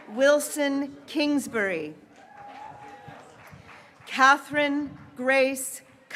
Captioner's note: graduates cheering